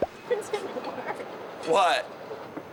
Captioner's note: chuckles